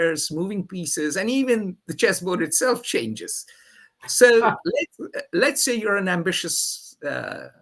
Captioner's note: laughs